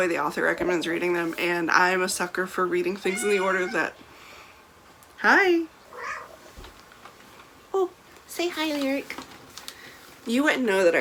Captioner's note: meow